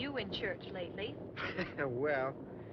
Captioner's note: laughs